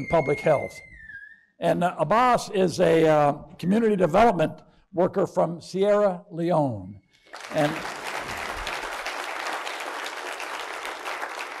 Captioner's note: applause